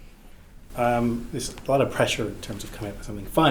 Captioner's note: in English